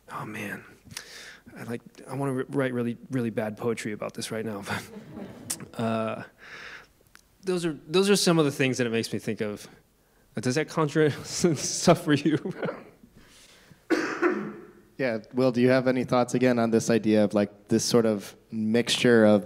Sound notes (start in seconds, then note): 4.6 audience chuckling; 12.3 laughs